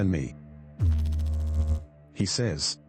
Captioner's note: electrical noise